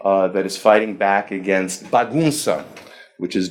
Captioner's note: speaking foreign language